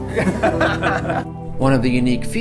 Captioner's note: laughing